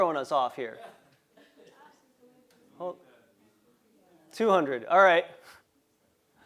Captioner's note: laugh